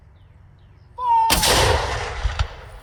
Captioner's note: loud explosion